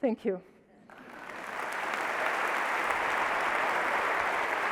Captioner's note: audience claps